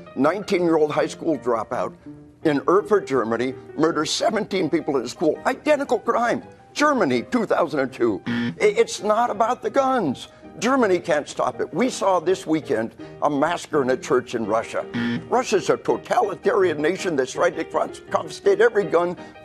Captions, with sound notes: 19-year-old high school dropout in Erfurt, Germany, murdered 17 people in a school - identical crime! Germany, 2002. [*buzz*] It's not about the guns! Germany can't stop it. We saw it this weekend, a massacre in a church in Russia. [*another buzz*] Russia is a totalitarian nation, that has stated to confiscate every gun